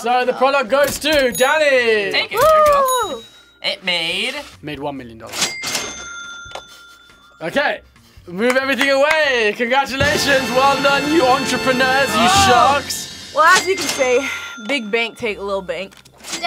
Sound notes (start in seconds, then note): 5.4 laughs; 5.4 register dings